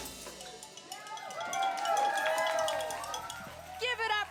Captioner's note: applause